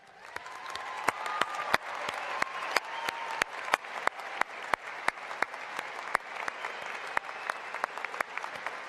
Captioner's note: applause and cheering